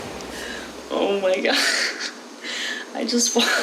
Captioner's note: laughs